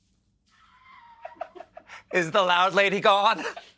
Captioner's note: laughter